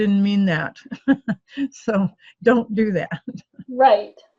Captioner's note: laughs